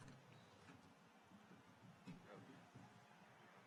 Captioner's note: none